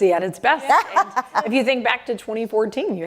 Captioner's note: laughter